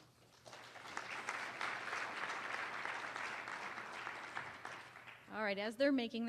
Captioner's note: applause